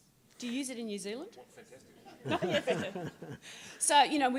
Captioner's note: laughter